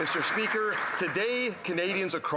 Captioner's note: some Applause